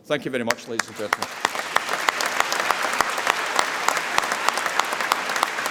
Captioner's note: applause